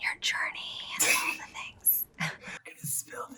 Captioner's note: giggles